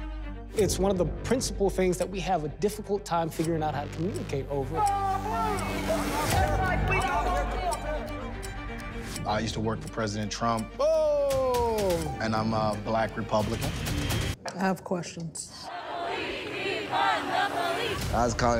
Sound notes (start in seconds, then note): 4.8 group chanting; 7.9 upbeat music